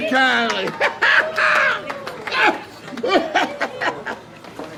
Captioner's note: Jake laughing